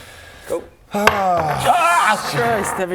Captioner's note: clang